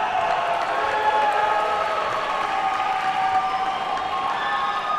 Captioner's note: audience cheers and applauds